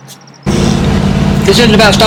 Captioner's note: car engine rumbles